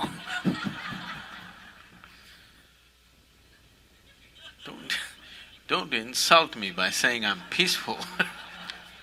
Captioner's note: all laugh; all laugh